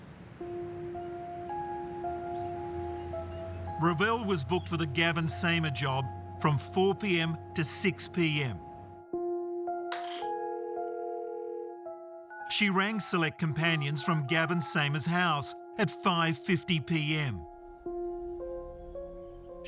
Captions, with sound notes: (ominous music) Revelle was booked for the Gavin Samer job from 4:00 PM to 6:00 PM. (phone rings) She rang Select Companions from Gavin Samer's house at 5:50 PM.